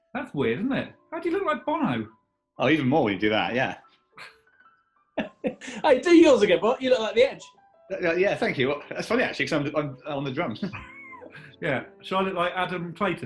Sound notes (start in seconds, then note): 5.2 chuckling